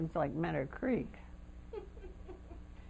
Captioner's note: laughter